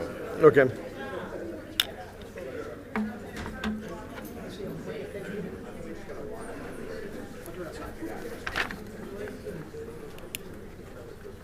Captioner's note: group talking